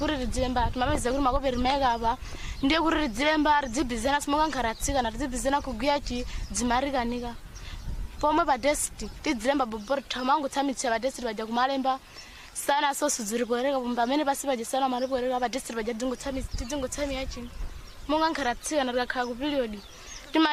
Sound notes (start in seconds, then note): 6.1 speaking in a global language; 8.1 speaking in a global language